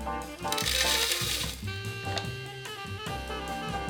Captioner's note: corn flakes dropping